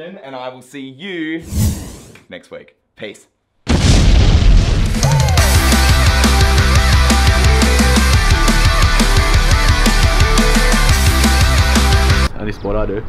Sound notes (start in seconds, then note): 3.6 explosion; 4.9 rock music